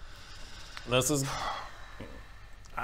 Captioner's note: sigh